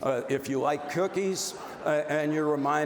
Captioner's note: audience laughs